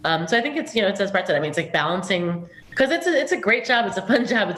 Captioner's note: chuckle